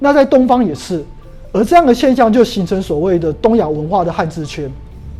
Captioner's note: chinese words